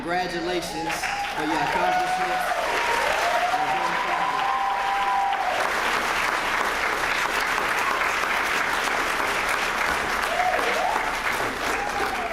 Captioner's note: applause